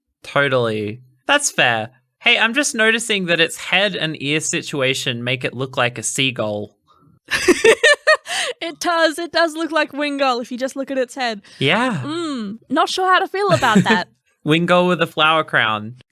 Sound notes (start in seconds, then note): 7.3 laughing